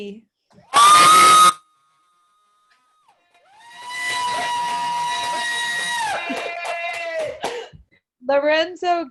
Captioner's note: cheering